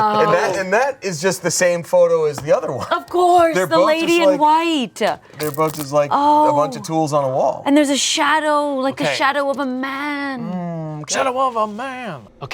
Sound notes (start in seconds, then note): none